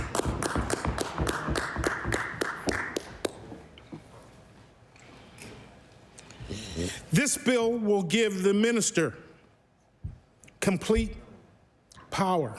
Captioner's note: applause